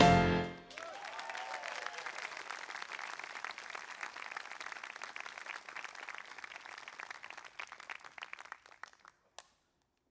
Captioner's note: applause